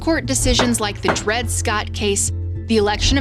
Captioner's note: gavel thudding